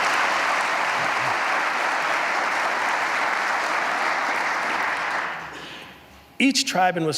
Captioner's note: applause